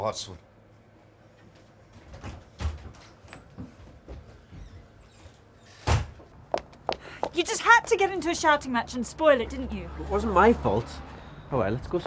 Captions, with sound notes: (door slams) You had to get into a shouting match and spoil it didn’t you? It wasn’t my fault. Howay, lets go somewhere else.